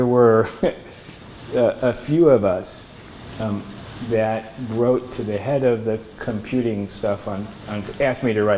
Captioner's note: laughs